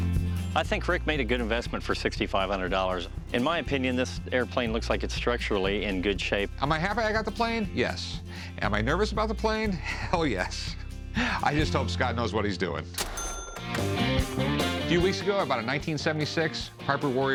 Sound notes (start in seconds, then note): 13.0 cash register rings